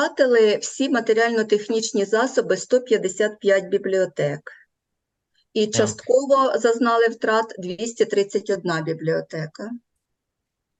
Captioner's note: foreign Language